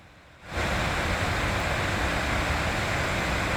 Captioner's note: sound of waterfalls